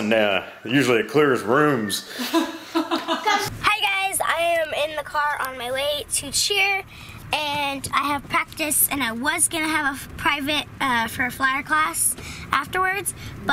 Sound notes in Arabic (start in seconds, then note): 2.0 يضحك